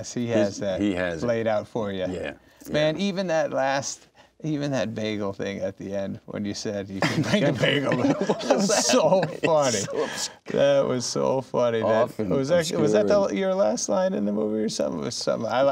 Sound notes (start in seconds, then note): 7.0 laughing